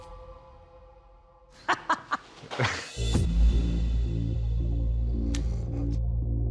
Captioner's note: laughs